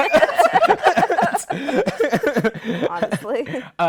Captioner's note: laughter